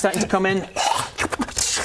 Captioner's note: hrrgh